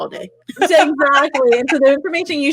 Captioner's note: laughing